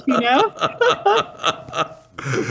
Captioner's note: laughter